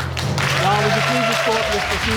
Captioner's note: audience clapping